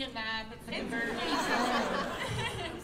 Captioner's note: laughter